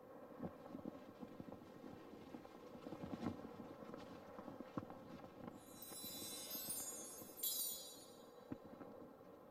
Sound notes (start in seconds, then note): 0.6 flags flapping; 5.6 twinkling